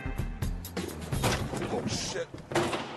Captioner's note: thud